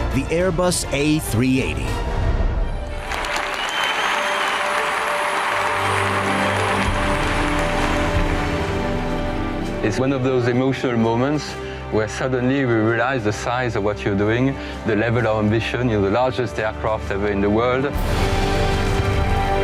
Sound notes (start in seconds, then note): 2.9 clapping and cheering